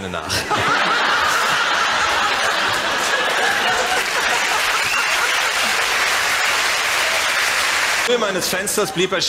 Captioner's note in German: Gelächter und Applaus